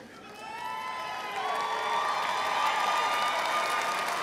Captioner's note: crowd applauds